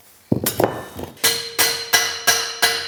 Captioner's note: metal clinking